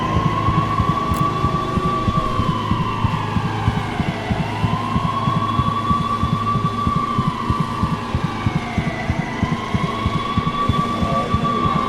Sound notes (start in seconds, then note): 0.2 dramatic music; 2.7 police sirens blaring; 6.4 dramatic music